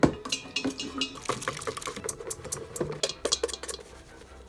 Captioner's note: metal clanking